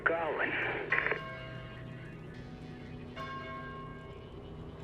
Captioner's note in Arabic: رنين جرس الكنيسة